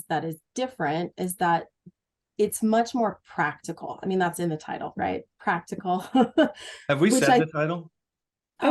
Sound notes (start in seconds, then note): 7.0 laughs